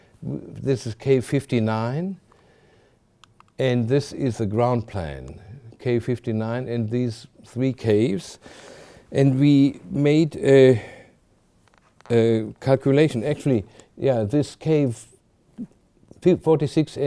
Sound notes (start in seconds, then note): none